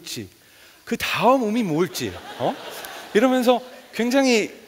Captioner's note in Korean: 웃음